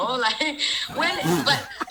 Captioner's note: girls laughing